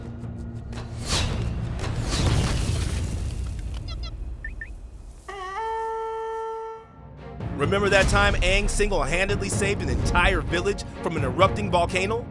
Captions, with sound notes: [beeping] [horn blowing] Remember that time Aang single handedly saved an entire village from an erupting volcano?